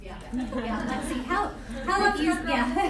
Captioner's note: laughter